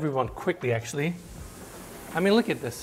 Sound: sliding window rasping

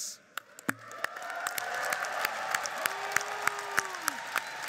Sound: applauding

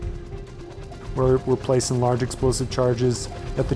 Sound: helicopter whirring

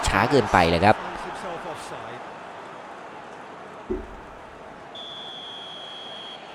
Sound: applause

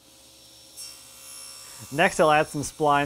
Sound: saw buzzing

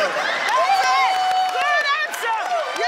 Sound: cheers

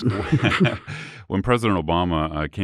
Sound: laughter

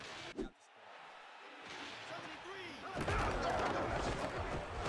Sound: screaming and cheering

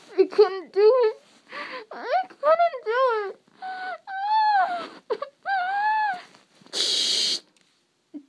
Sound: static; cue sobs and then static

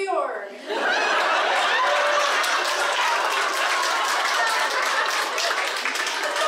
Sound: boisterous laughing and applause; laughing drowns out the speaker

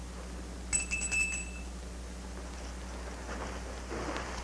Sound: bell rings

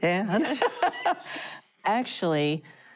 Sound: laughing

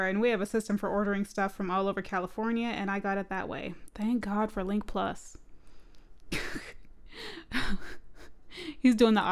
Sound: laughing

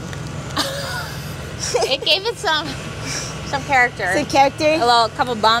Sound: laughs

